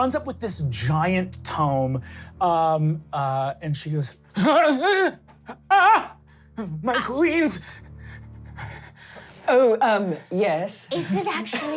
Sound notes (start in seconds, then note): 5.5 gasping and screaming; 7.6 heavy breathing